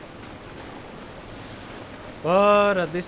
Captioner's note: deep breath